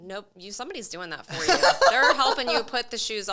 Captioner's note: laughing